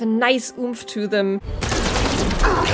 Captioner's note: gurgling death scream; futuristic gun firing